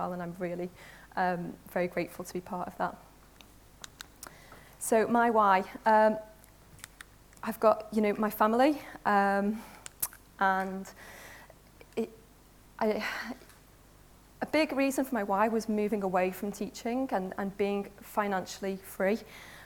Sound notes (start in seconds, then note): none